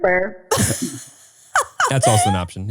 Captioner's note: laughing